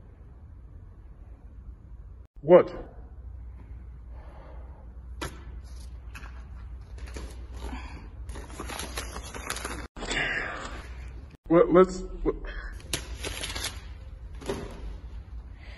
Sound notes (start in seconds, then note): 8.3 crumples paper; 10.0 sigh; 12.9 rustling paper